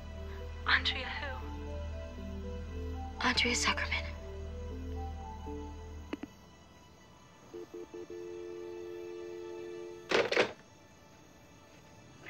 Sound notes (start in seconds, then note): 6.6 phone line disconnects; 10.0 phone hanging up